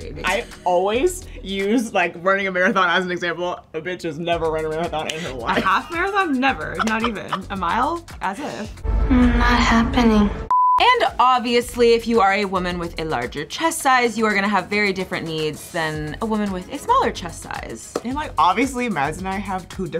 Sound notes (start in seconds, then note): 6.7 laughs